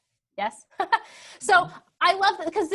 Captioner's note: laughs